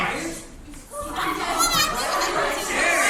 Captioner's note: crowd Commotion